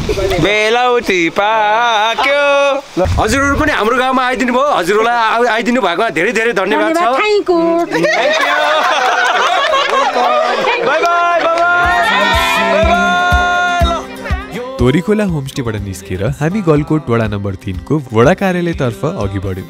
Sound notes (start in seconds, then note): 7.8 laughing